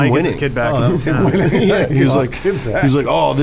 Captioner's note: laugh